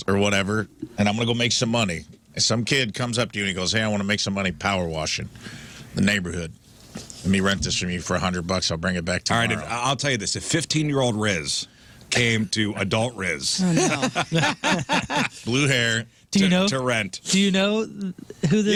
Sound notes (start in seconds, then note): 13.6 laughing